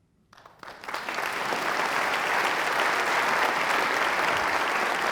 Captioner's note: applause